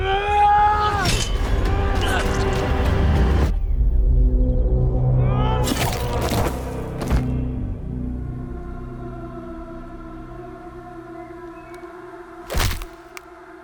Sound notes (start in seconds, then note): 0.1 Ander shouting; 2.2 dramatic music; 5.5 Ander shouting; 9.2 dramatic music